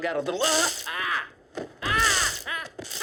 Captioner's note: cattle prod buzzes